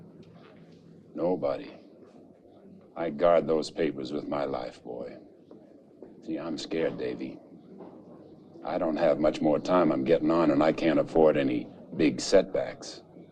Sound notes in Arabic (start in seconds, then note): none